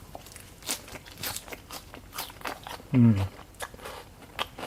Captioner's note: lettuce crunching